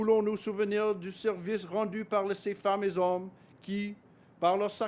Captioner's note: speaks French